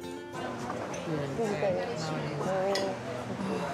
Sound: chatter

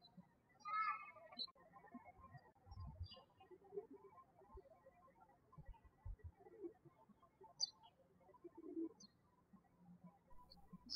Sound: birds chirping

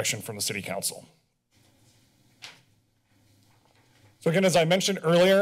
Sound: pause

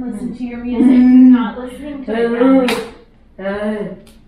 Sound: moans

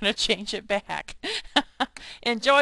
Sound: laughing

